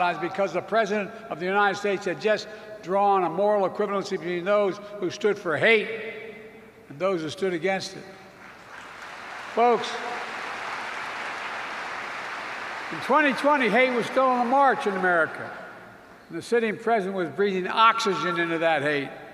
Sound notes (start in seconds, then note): 8.4 applause